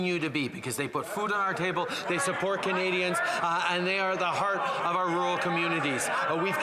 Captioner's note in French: voix de l'interprète